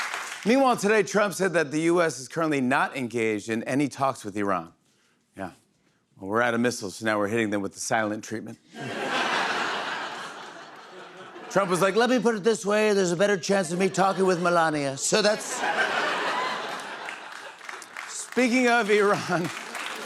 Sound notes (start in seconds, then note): 0.0 cheers and applause; 8.7 laughter; 15.1 laughter; 19.8 cheers and applause